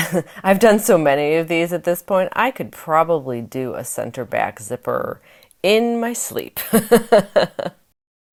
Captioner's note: laughs